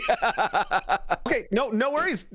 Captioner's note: laughter